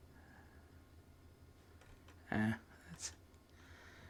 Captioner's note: silence; silence